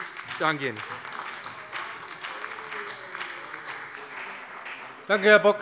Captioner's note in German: Beifall bei dem BÜNDNIS 90/DIE GRÜNEN und der CDU